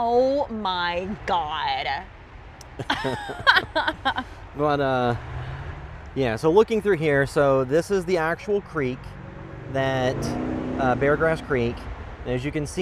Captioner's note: laughter